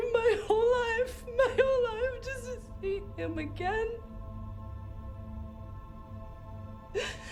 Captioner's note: sobs